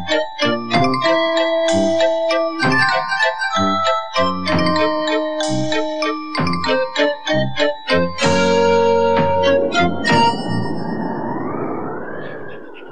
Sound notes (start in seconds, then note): 8.1 sound Of Storm Winds